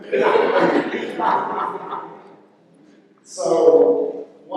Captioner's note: laughter